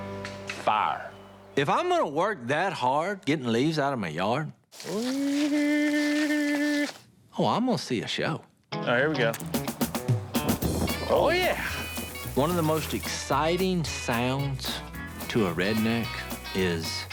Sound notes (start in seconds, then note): 4.7 gas splashing; 4.8 Jase humming; 9.3 fire crackles